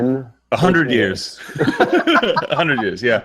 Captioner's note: laughter